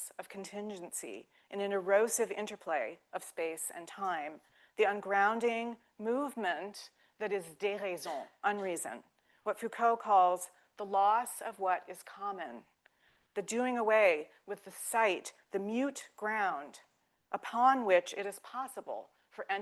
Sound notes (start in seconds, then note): 7.1 speaking French